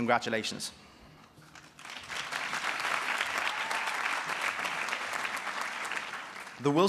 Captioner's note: applause